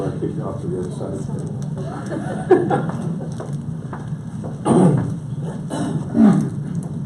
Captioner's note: audience laughs